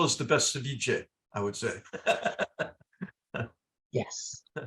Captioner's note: laugh